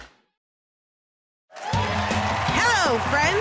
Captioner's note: cheers and applause